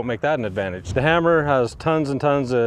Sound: image whooshing

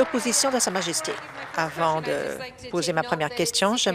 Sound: applause

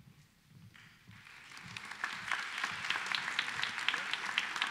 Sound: applause

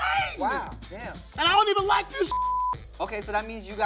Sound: beep

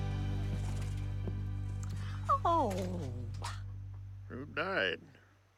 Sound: peeling

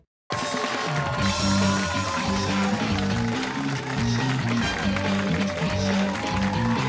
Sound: cheers and applause

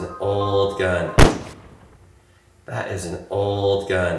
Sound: gun bangs

